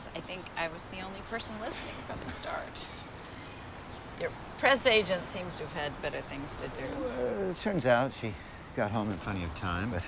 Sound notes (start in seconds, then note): none